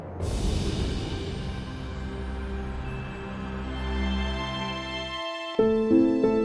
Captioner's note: wind whooshing; soft music; soft piano music